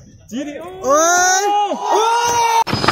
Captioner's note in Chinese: 歡呼